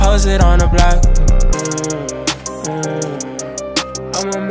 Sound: mm mmm

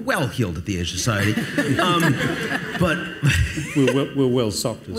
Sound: audience laughs

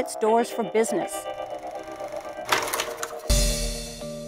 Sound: film projector whirls

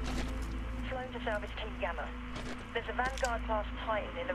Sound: radio

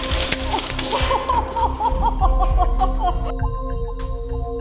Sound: laughing

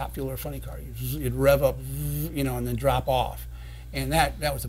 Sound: imitates revving

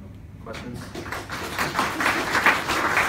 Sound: applause

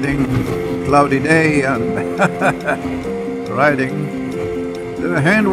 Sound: laughs

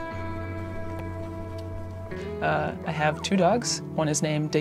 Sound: dog whining

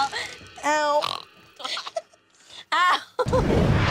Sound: snorting

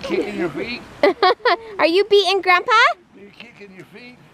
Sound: laughs

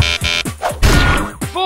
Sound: sound of Falling and hitting the Ground

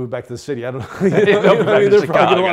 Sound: laughing

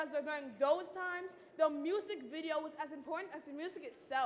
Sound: none

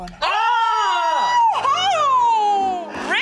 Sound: shouting

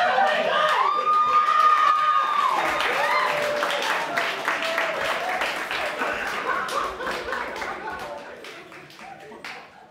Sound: applause

